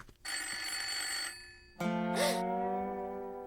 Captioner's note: telephone ringing